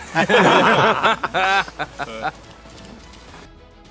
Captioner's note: laughing